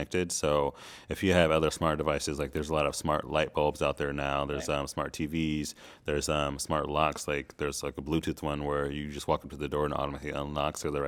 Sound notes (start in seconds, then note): none